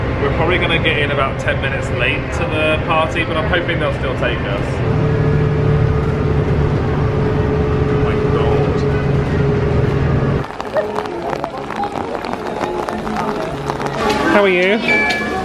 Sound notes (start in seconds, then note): 4.9 bus engine humming; 10.3 rain splattering; 15.2 scanner beeps